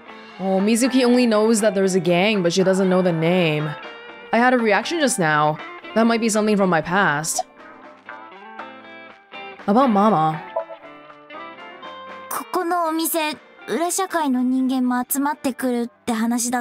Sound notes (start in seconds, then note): none